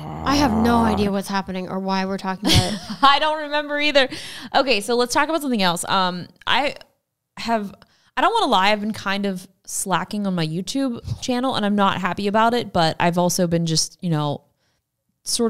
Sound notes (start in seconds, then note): 0.0 growls; 2.4 chuckles